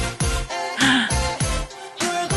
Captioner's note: gasp